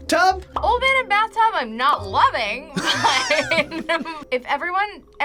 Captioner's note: laughs